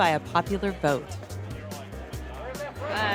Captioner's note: chattering